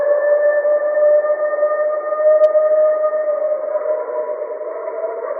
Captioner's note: creature continues howling